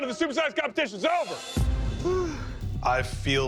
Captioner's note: sighs